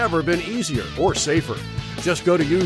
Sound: none

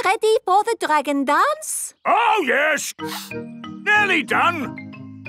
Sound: sniffing

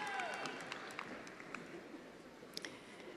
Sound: attendees applauding

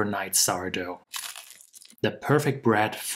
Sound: crunching sound

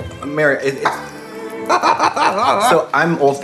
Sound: laughing

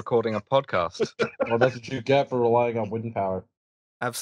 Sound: laughter

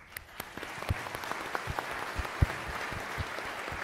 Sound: applauds

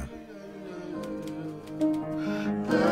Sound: typewriter keys clacking

